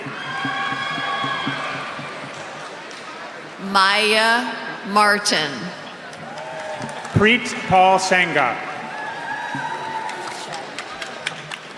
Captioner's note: cheers and applause